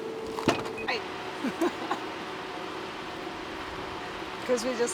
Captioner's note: giggles